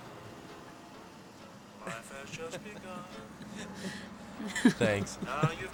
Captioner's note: Carmen and Andrew laugh